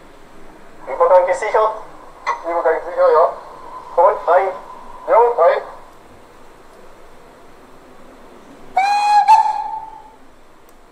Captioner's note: whistle